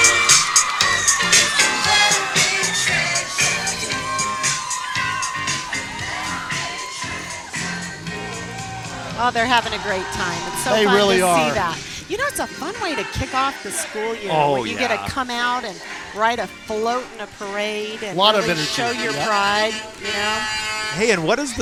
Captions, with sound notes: (crowd cheering) Oh, they're having a great time. They really are. Sometimes you see that. You know, it's a fun way to kick off the school year when you get to come out and ride a float in a parade